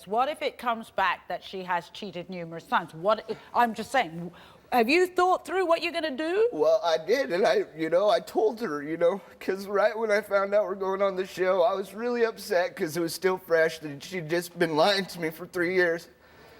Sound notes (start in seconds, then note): none